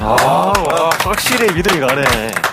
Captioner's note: unanimous applause